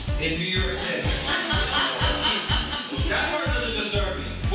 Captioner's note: audience laughing